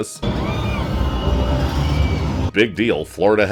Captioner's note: screams